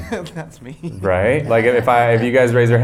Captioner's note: laughing